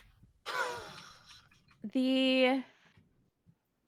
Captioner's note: laughs